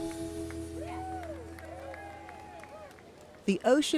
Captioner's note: upbeat music; crowd cheering